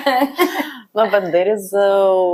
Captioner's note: laughs